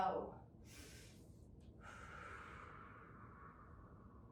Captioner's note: breathing deeply